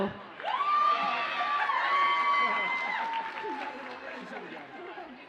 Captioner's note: audience cheers and applauds